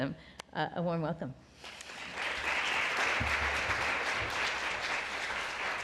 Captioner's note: applause